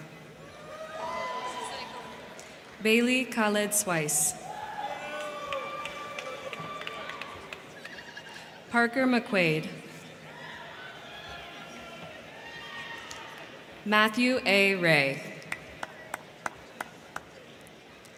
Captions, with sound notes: (crowd cheering) (crowd clapping) Bailey Khalid Sweiss. (crowd cheering) (crowd clapping) Parker McQuaide. (crowd cheering) (crowd clapping) Matthew A Ray. (crowd clapping)